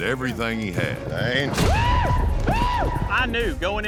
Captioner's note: thud, screaming